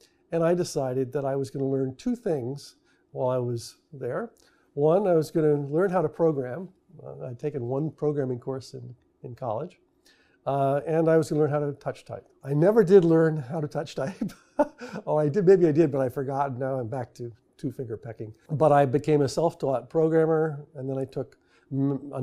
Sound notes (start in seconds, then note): 14.0 laughs